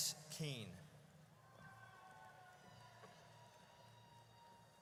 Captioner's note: audience cheers